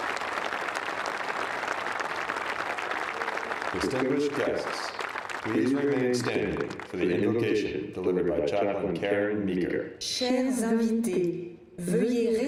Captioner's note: applause